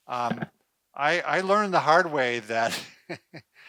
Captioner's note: laughs